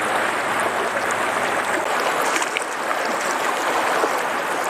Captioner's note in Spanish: sonido de agua de río